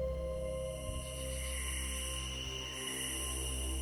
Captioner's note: insects chirping